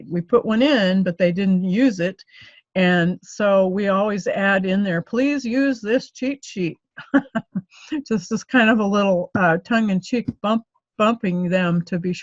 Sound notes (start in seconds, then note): 7.0 laughs